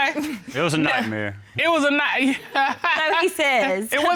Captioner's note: laughs